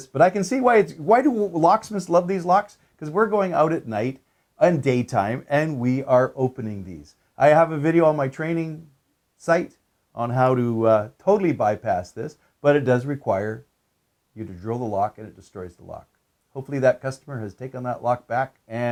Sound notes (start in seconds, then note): none